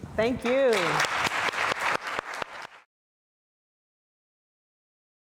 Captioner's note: audience applauds